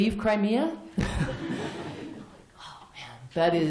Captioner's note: laughter